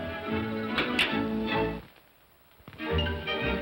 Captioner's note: whimsical music; comb clatters down; whimsical music